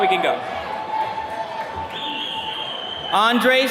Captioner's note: attendees cheering